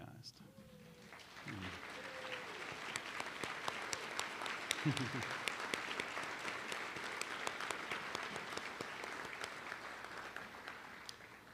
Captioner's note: applause